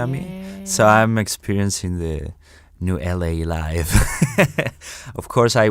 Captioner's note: laughs